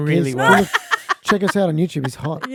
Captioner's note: all laughing